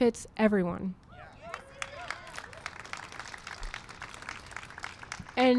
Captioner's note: applause and cheering